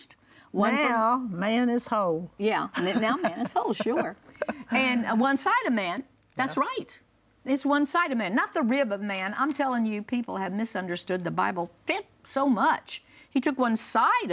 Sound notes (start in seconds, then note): 2.8 laughs